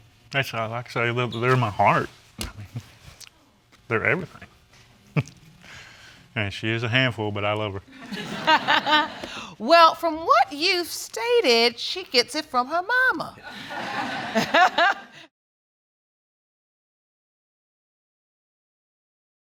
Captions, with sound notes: Yes. That's how, like I say, they're my heart, I mean, they're everything. (CHUCKLES) And she's a handful but I love her. (ALL LAUGHING) Well, from what you've stated, she gets it from her mama. (AUDIENCE LAUGHING) (LAUGHING)